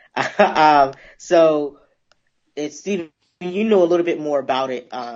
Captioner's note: laughs